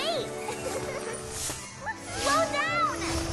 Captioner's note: laughing